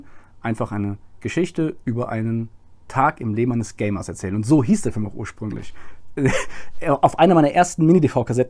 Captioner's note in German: lacht